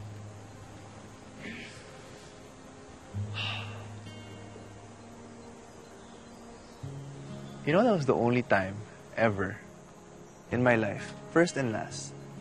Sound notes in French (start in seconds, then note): 3.2 Deib exhales